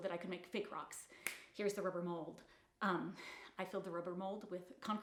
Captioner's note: fingers snapping